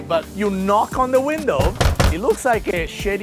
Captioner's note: knock on window